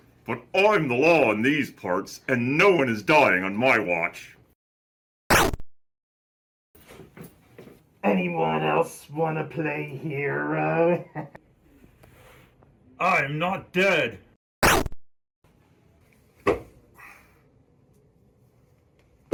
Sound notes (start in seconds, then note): 5.3 laser gun fires; 14.6 laser gun fires